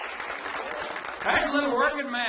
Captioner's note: audience applauds